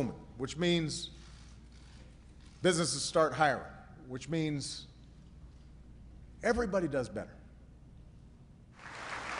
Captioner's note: applause